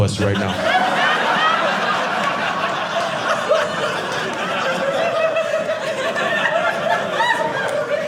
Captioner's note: audience laughing